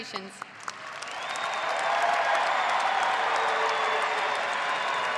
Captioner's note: audience applauding